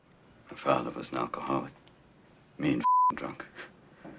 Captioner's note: beeping